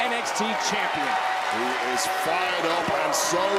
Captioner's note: crowd cheering